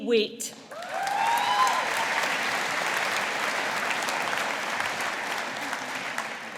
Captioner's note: audience applauding